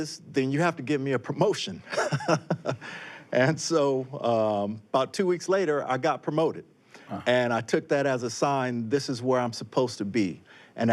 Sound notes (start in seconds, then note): 1.9 laughs